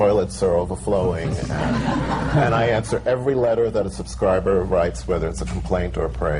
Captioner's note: laughter